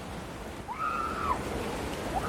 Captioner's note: excited screaming